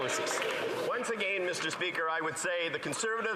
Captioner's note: some Applause